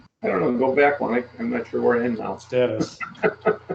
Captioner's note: laughs